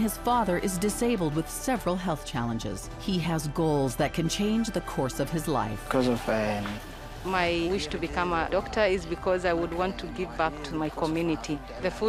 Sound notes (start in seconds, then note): 6.1 speaking in foreign language